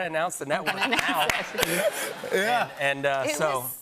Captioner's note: laughter